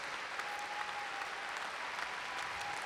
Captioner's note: applause